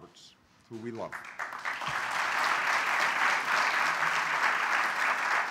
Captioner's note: applause